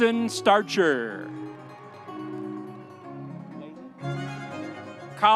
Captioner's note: audience cheering